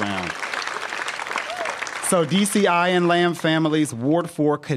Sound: applause

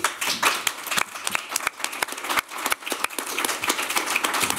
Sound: applause

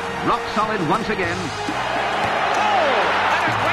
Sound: crowd cheering

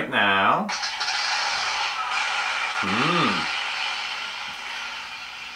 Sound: scratchy static

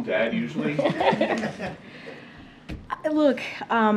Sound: laughter

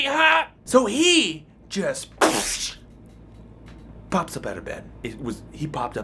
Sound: blows air

